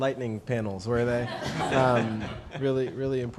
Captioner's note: laughter